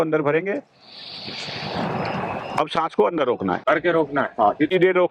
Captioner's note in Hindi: नाक से की जाने वाली आवाज़